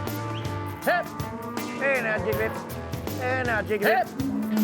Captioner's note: calling cattle